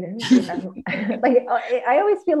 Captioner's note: laughs